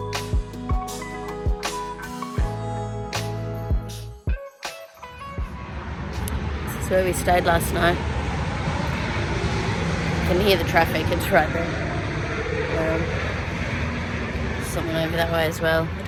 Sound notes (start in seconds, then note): 3.0 the music fades out to the sound of traffic; 6.5 sounding rough; 8.2 there is loud traffic in the background